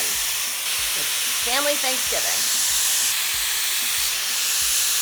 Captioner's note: dryer whirs